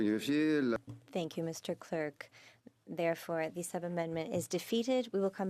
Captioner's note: speaking French